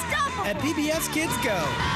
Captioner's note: screaming